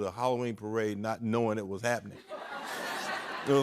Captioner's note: laughter